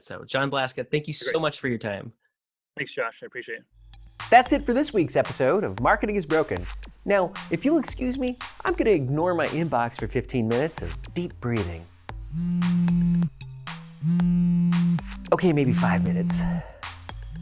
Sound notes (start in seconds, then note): 12.2 phone vibrating